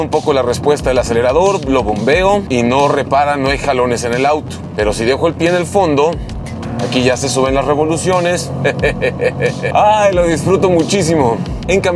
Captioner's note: laugh